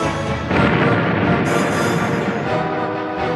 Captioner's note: explosion booming; suspenseful music continues